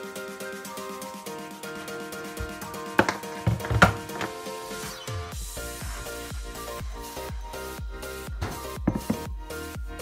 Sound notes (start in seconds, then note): 3.4 sound of waffle iron being placed onto counter; 8.8 sound of bowl being placed gently onto counter